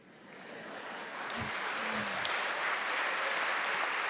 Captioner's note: audience clapping